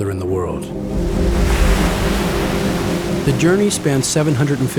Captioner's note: water splashing